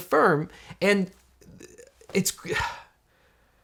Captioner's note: sighing